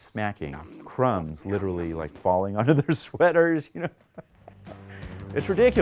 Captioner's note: laughs